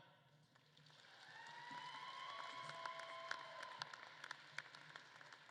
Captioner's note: audience claps and cheers